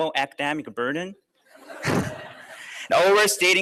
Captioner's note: laughter